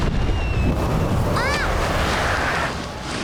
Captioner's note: screaming